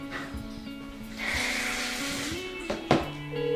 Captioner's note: shower opens and runs